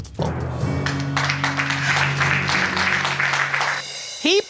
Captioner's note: audience applauding